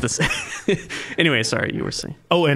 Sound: laughing

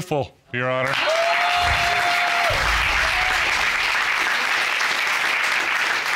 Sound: applause

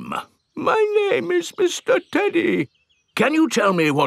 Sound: in normal voice; in teddy's voice; in normal voice

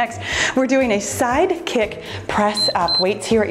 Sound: timer beeps

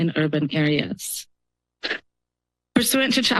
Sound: pause

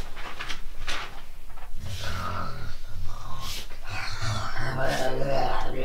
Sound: starts snoring hard; snoring becomes demonic tongues

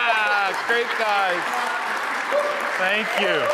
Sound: attendees laughing; audience cheering; audience applauding

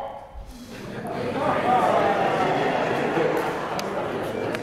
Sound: laugh

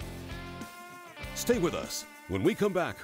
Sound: voiceover

